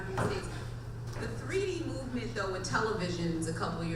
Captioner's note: voiceover